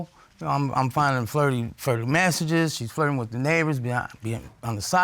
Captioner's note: none